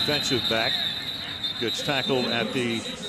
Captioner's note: whistle blows